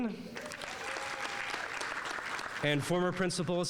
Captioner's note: audience applauding